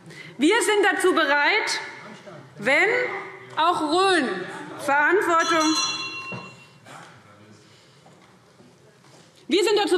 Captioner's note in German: Unruhe – Glockenzeichen